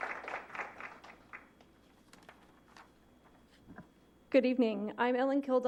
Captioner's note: applause